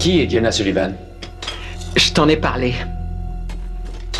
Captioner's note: sighs